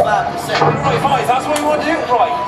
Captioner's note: portal gun fires